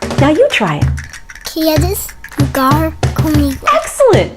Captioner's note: speaking foreign language